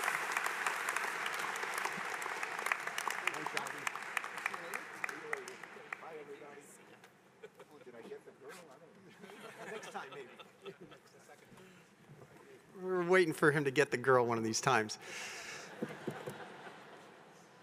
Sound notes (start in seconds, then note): 9.8 applause